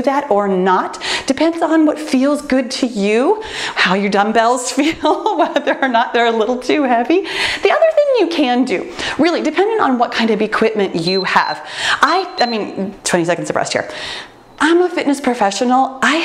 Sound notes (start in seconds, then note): 5.1 laughs; 11.0 timer beeps